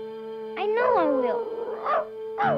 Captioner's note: Arrow barking